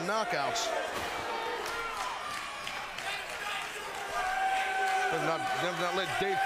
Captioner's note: crowd noise